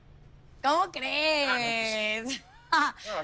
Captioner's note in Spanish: Risas